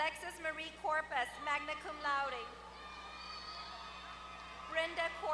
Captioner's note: applause